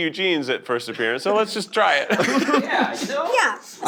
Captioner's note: laughter